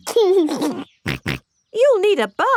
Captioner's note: giggles and snorts